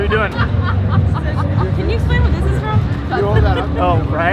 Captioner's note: laughter